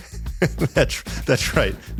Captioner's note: laughs